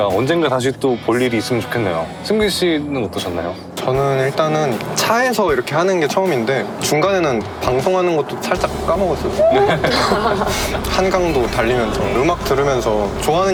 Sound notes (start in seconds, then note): 9.2 laughs